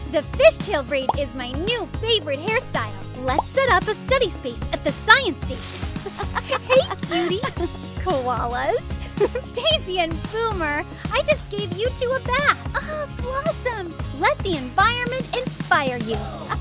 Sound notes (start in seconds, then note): 5.6 laughs